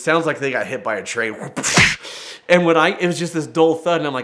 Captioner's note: punch thuds